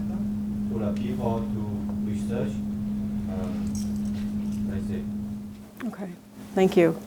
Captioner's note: speaking faintly